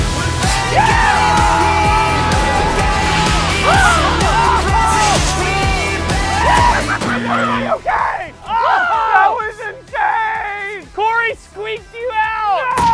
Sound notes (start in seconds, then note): 0.0 cheering; 0.3 singing; 6.4 laughter